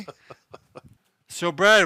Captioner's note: laughing